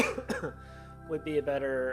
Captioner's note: coughing